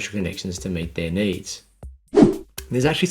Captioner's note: scene change whooshing